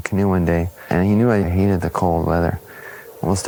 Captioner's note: winter wind